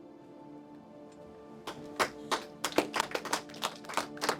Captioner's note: class clapping